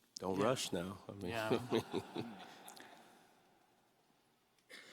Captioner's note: audience laughs